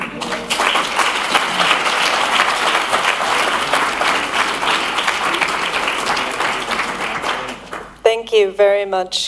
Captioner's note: applause